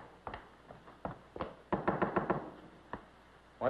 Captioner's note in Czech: Klepání